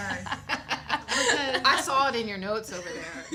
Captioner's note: laughter